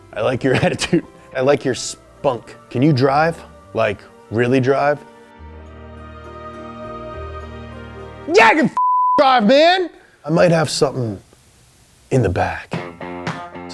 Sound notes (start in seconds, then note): 8.8 beeps